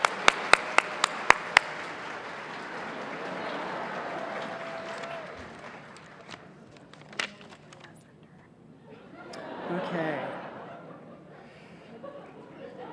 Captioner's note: cheers and applause